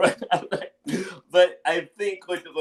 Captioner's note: chuckles